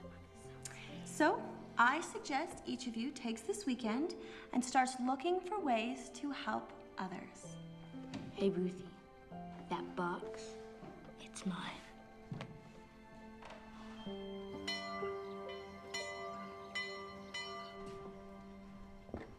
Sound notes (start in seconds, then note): 13.5 school bell rings